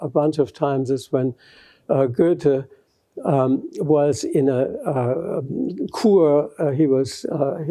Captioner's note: non-english